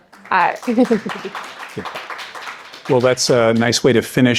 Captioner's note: audience clapping